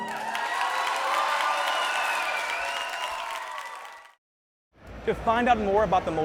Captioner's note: cheers and applause